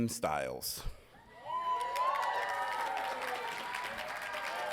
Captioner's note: audience cheering